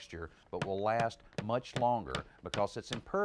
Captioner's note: hammer banging